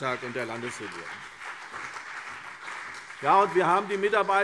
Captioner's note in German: Beifall CDU und BÜNDNIS 90/DIE GRÜNEN